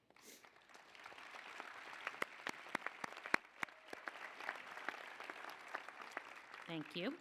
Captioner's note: applause